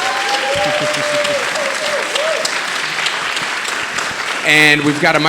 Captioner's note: audience applauding and cheering